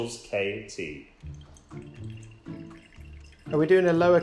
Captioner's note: pouring